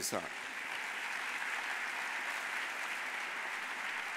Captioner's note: audience applauding